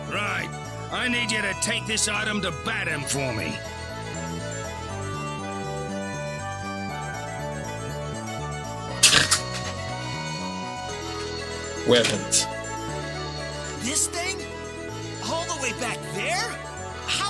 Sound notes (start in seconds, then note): 9.0 chortles